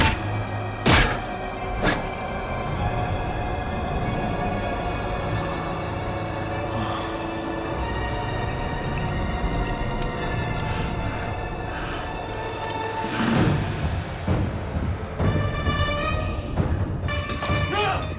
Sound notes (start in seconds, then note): 0.8 head thuds; 4.6 gas hissing; 7.5 wine glugging; 12.0 dark intense music